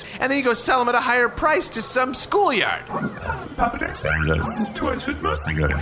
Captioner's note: quietly